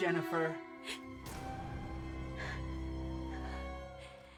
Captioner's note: Jennifer gasps